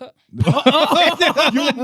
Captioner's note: laughing